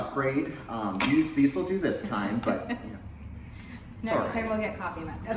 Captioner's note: laughs